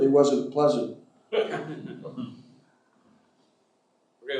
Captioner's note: chuckling